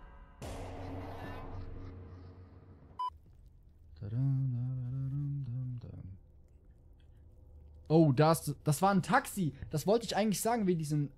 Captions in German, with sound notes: *summt vor sich hin* Oh da is... Das war ein Taxi! Das wollte ich eigentlich sagen, wegen diesem...